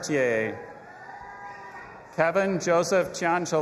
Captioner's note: audience applauding and cheering